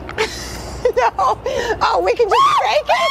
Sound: laughs

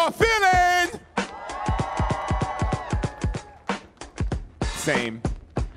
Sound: audience cheering

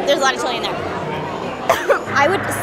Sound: coughs

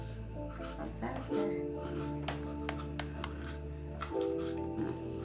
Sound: toothbrush rubbing

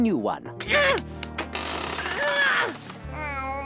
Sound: grunting

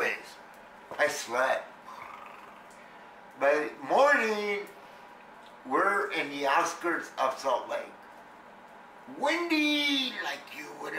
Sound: mimics snoring

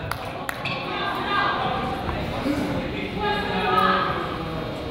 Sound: coaches yell

